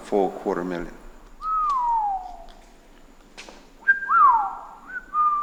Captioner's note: Jack whistling